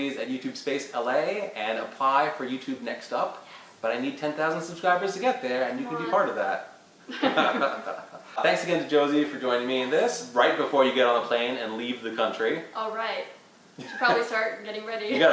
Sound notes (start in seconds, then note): 7.1 laughter; 15.1 laughs